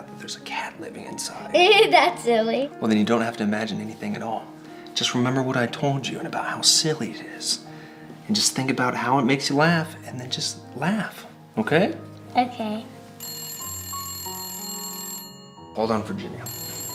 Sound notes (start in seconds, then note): 13.2 phone rings